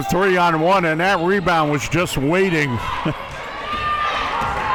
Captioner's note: chuckles